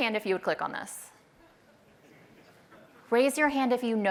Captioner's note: laughter